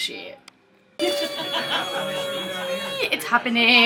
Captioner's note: person laughing; exclaims